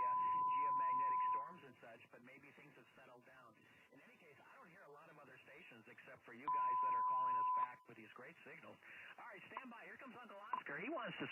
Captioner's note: audio from off-air QSO